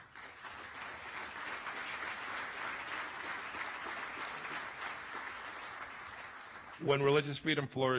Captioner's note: applause